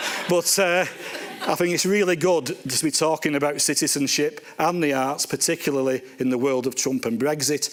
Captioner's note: laughter